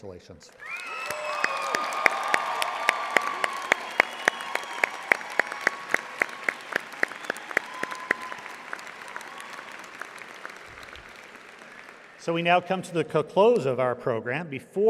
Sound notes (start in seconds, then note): 2.2 audience applauding